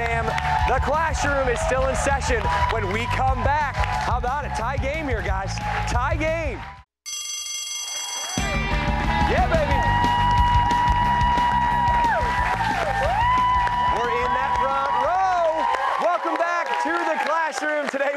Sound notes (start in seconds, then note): 7.0 bell rings; 8.8 cheers and applause